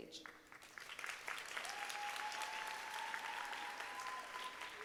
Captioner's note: audience applauding